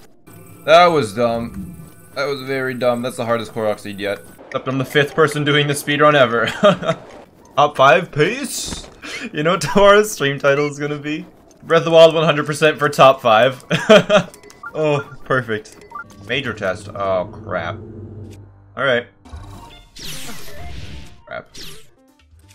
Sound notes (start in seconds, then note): 6.5 laugh; 13.7 laugh